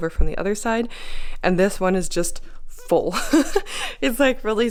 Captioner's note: laugh